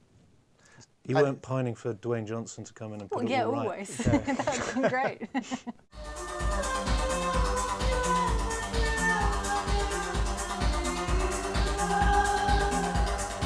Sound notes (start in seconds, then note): 3.8 laughing; 6.2 electronic dance music